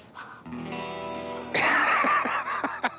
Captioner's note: laughs